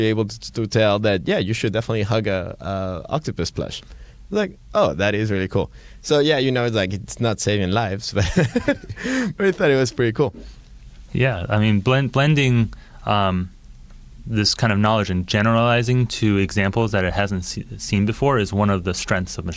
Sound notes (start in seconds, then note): 8.2 laughing